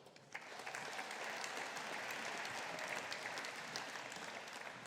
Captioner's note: audience applauding